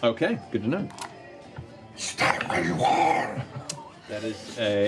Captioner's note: demonic voice